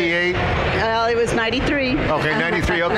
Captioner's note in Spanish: Risas